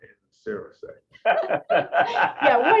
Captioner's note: laughter